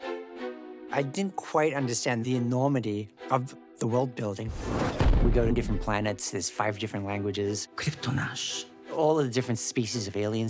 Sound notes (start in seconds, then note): 4.5 boom; 7.8 in Kryptonian